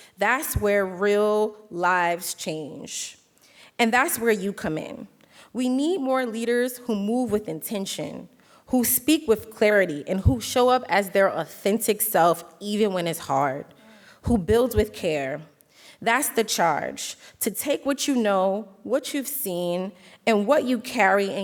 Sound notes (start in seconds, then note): none